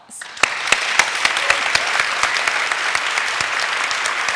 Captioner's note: applause